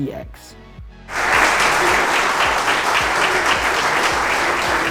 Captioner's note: audience clapping